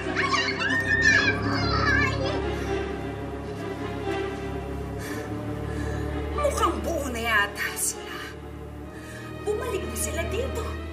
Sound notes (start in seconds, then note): 0.0 Ethel screams; 0.0 witch laughs; 4.8 exhales